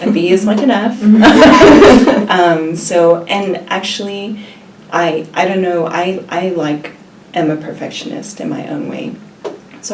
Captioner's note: laughs